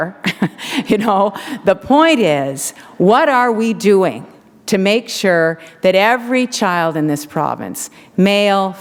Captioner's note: chuckle